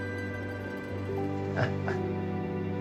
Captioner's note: chuckles